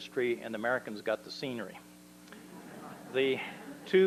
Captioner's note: laughter